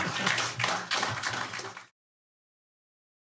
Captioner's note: applause